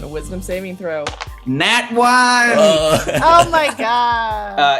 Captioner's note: laughter